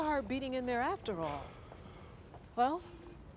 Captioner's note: sighs